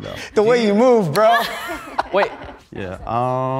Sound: laughs

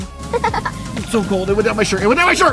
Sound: laughs

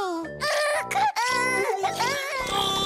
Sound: crying

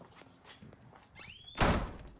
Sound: door slamming

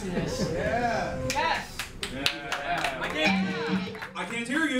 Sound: crowd claps and murmurs

